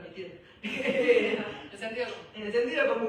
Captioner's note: laughter